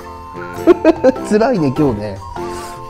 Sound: laughs

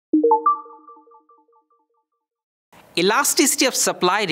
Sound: text chiming

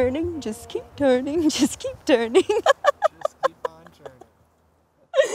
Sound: laughs

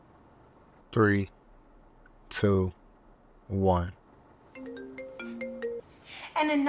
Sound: phone ringing

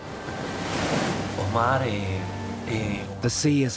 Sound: speaking Spanish

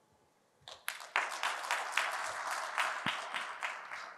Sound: applause

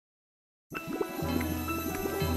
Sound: quicksand bubbling

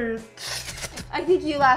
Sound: hisses

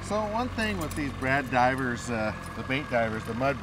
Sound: engine running

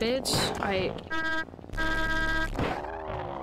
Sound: honks aggressively

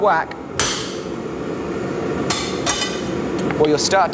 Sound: metal clanging

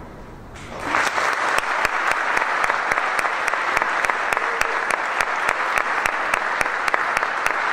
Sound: applause

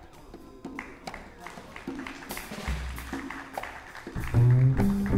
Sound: audience clapping

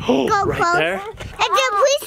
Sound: gasps

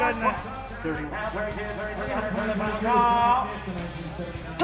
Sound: auctioneer drawling

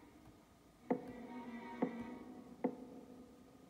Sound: knocks on door

